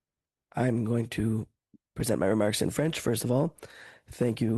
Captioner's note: speaking French